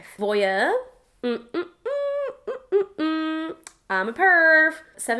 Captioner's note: hums